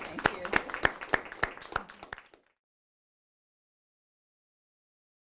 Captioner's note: attendees applauding